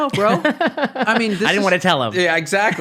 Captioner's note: laughing